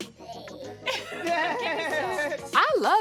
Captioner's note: laughs